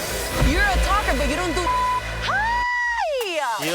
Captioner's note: beep